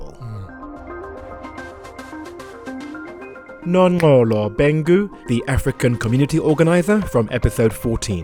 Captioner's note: voiceover